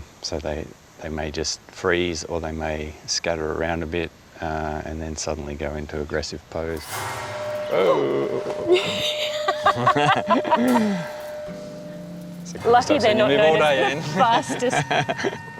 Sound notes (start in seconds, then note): 8.6 gasps, laughs